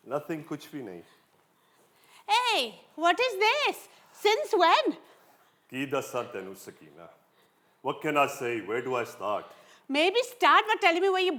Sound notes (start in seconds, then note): 5.9 in Punjabi